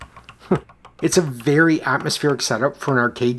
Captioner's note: chuckles